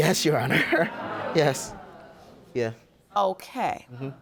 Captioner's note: audience gasping